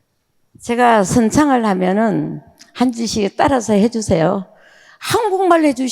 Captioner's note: speaking in foreign language